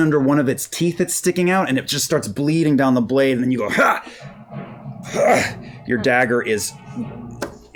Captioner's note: grunts